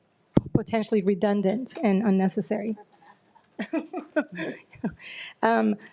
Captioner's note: chuckles